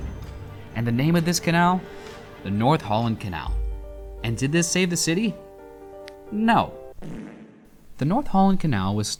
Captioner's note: fart sound